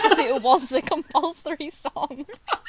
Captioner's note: hosts laugh